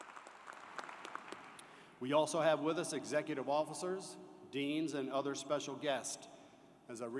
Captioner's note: applause